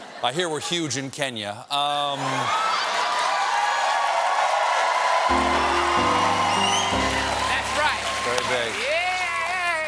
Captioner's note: cheers and applause